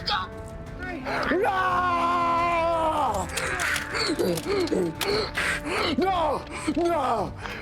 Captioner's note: shouting